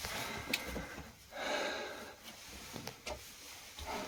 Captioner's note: heavy breathing